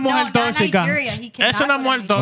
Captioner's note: speaking In Foreign Language